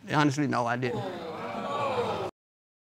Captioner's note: crowd reacting